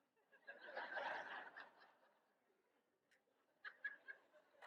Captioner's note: audience laughs